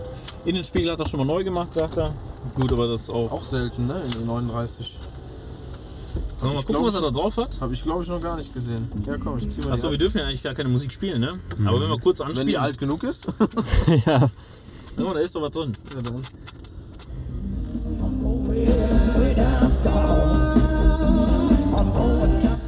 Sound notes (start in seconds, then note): 13.2 laughter; 17.7 rock music